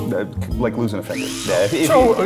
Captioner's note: buzz saw whirring